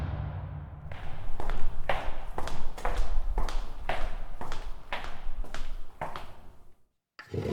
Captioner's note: door Closing; foot Steps; chair Moving